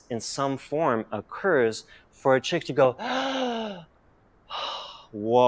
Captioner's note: inhale